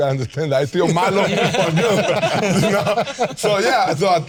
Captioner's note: all laughing